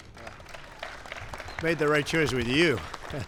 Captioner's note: applause